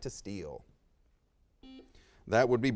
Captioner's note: buzzer sounds